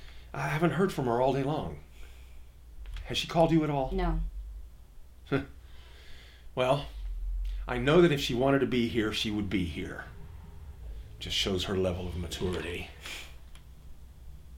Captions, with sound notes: I haven’t heard from her all day long. Has she called you at all? No. Huh. Well, I know that if she wanted to be here, she would be here. Just shows her level of maturity. - (huffs)